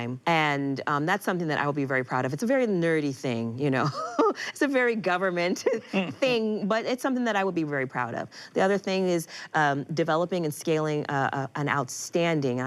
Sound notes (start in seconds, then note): 3.8 Malia laughs; 5.9 laughs